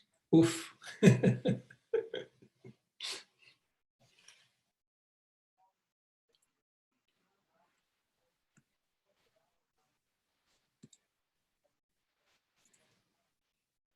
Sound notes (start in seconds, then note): 0.4 laughs